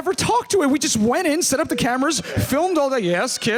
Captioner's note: child crying